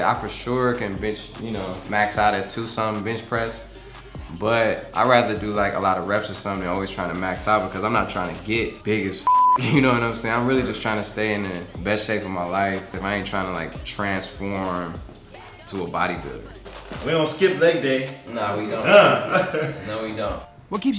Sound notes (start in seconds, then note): 9.2 beep